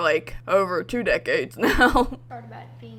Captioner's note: laughs